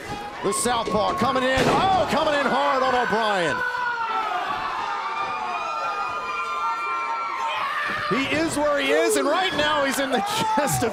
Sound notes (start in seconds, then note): 3.4 crowd cheering